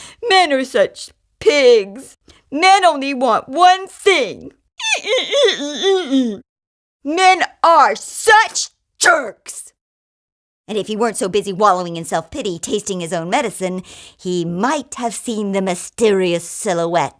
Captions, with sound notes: "men are such pigs!" "men only want one thing . . ." (bouncy-bouncy sounds) "men are such jerks!" and if he weren't so busy wallowing in self-pity, tasting his own medicine, he might have seen the mysterious silhouette